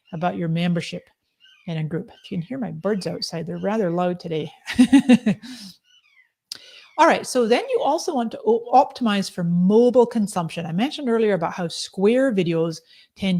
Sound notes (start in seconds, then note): 4.6 laughs